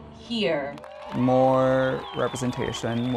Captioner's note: cheering